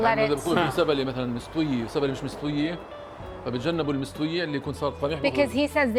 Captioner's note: speaking Arabic